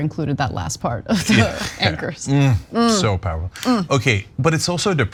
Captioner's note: laugh